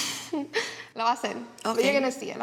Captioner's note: speaking Spanish